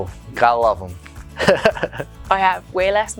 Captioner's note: chuckles